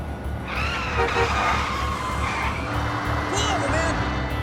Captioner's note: horn